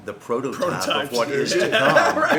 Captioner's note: laughs